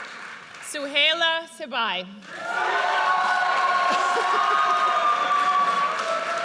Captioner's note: audience cheers